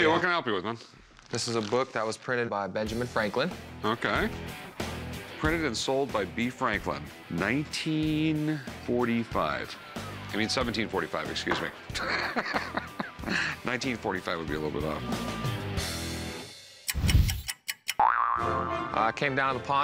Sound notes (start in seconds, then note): 11.9 laughs; 16.3 loud boing; 16.8 clock ticking